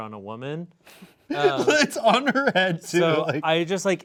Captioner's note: laughing